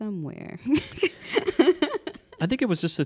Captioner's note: laughing